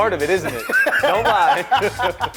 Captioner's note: laughs